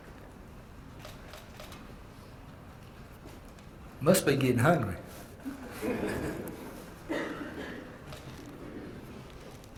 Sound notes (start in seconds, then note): 5.5 laugh